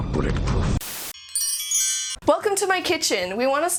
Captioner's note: chimes